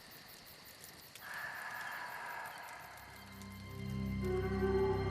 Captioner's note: exhaling